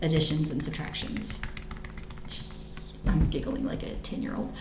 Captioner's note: keyboard clicks